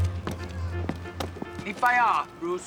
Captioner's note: speaking Mandarin